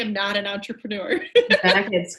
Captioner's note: laughs